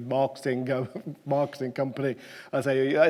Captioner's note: chuckles